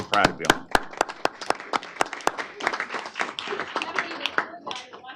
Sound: applause

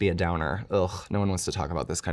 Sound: scoffs

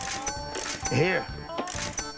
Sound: cash register sound

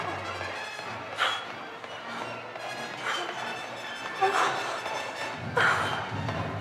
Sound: Anna panting; dramatic music

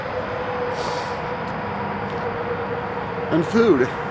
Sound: sniffs

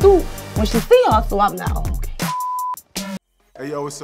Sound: beep; techno music

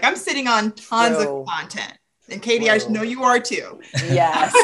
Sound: laughs

